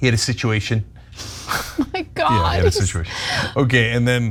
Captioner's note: laugh